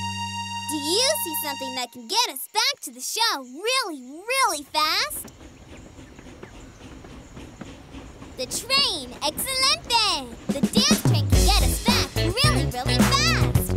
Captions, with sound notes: Do you see something that can get us back to the show really, really fast? [huffing and puffing] The train, excelente! The dance train can get us back really, really fast!